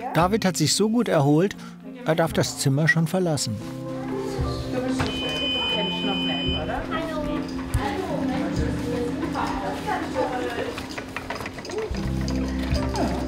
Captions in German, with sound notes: David hat sich so gut erholt, er darf das Zimmer schon verlassen. (Hoher Piepton) Hallo. Hallo. (Sanfte Musik)